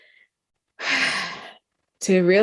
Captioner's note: sighs